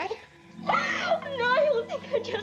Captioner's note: sobs